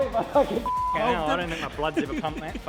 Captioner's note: beep